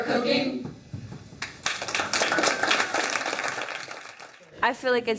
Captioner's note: applause